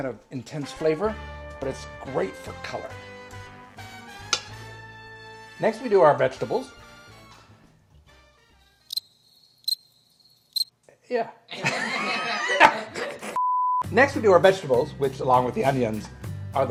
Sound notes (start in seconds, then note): 3.4 soft music; 8.9 crickets creaking; 11.5 laughs loudly